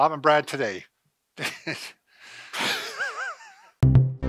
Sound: both laughing; keyboard plays

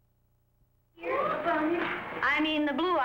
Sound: children mumble

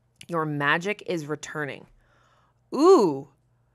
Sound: none

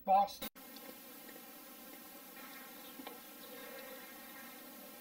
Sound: camera static

